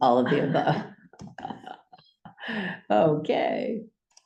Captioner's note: laughter